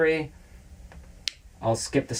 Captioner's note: click